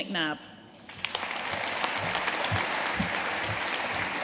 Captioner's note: audience applauding